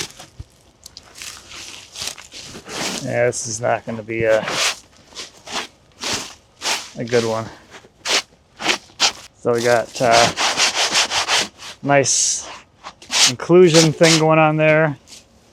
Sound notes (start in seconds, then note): 0.1 feet rustling; 8.5 hands rustling